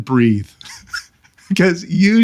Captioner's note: laughing